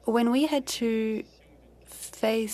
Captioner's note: speaking french